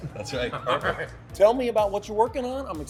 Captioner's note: laughs